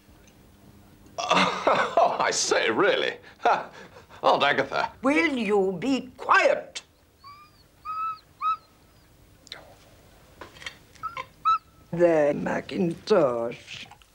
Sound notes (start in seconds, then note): 1.2 laughs; 6.8 dog whines